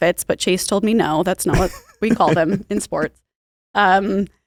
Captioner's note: laughs